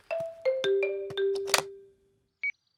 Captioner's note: clicks; meter beeping